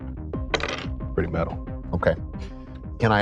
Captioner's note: dice rolling